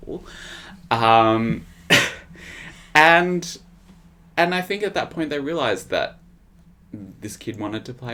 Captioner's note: laughs